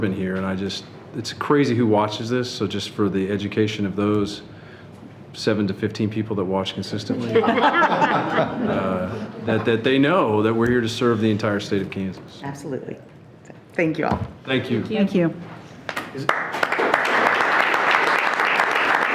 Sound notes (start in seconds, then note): 7.2 everyone laughing; 15.8 everyone clapping